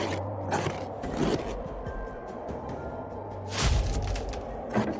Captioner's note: growling & rumbling continues; suspenseful